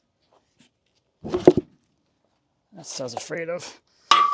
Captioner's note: log thuds